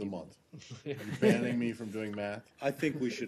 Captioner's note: laughter